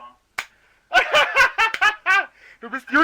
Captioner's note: laughs